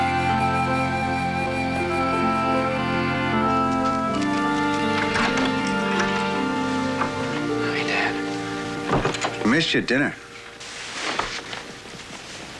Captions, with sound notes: (DOOR OPENS) Hi, Dad. We missed you at dinner. (SIGHS)